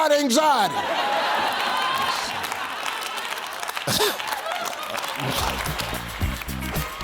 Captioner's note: audience laughing and clapping; funky music